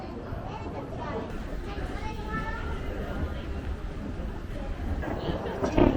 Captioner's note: laughs